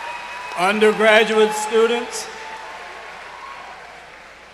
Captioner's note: cheers and applause